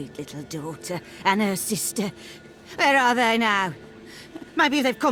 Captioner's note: agitated